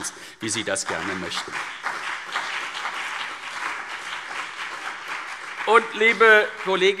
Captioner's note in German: Beifall CDU und BÜNDNIS 90/DIE GRÜNEN